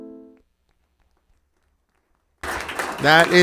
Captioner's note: applause